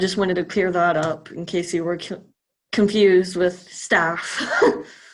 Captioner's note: chuckles